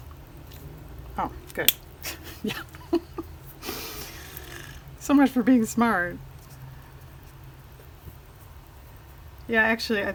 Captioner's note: laughs